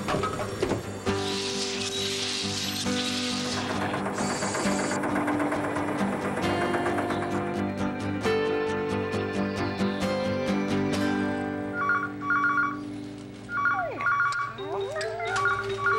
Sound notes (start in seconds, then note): 11.7 phone ringing